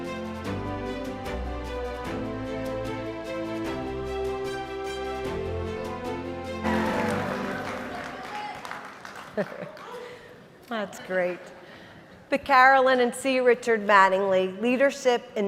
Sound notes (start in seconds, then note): 6.6 applause; 9.1 laughs